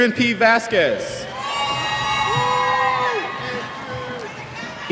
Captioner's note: cheers